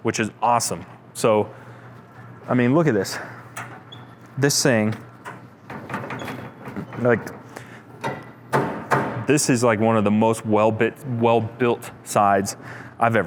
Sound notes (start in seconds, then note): 5.8 grill rattling; 8.0 steel thudding